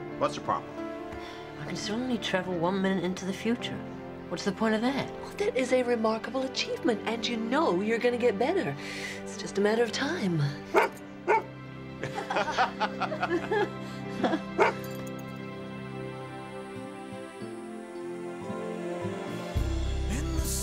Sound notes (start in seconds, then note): 12.0 laughing; 17.9 soft orchestral music